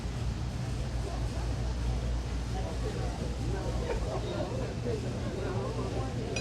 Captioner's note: restaurant patrons chatter faintly